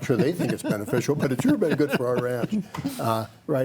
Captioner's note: panelist laughs